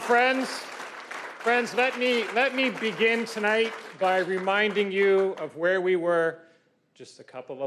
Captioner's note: cheers and Applause